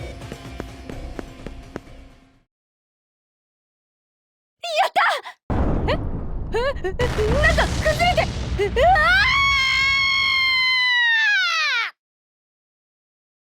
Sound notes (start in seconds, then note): 8.8 scream